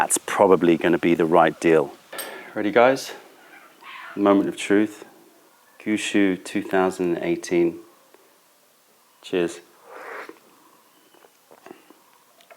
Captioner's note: sips tea